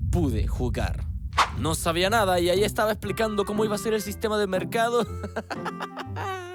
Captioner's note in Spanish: risas